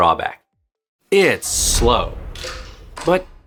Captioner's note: dramatic boom